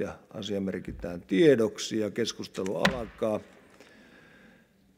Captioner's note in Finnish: kopauttaa nuijaa